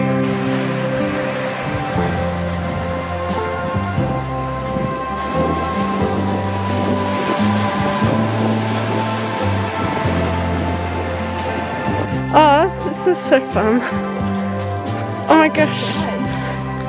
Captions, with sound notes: *calm folk music playing* *waves crashing on the rocks* Aww this is so fun! Oh my gosh! Yeah!